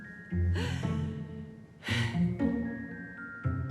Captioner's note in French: rire; soupirs